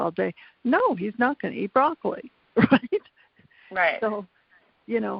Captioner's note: laughs